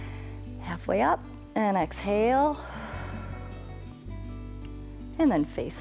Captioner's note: exhales